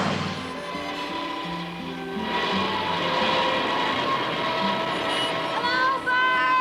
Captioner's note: airplane engine whirring